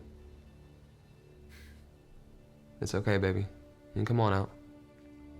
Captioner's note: sighs